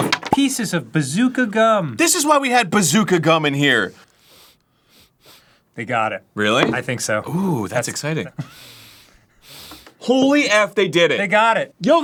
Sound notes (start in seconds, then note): 4.1 he's sniffing